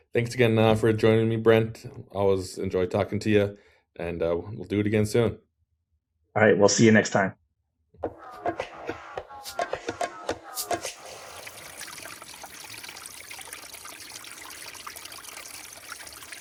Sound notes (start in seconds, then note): 8.0 funky music; 12.2 water trickles